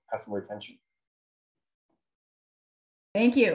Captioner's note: silence